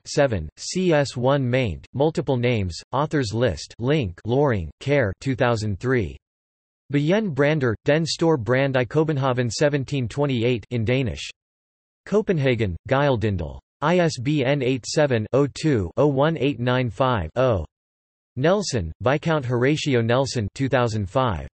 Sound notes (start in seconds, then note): 10.9 in Danish